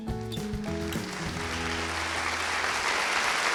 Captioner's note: crowd applauds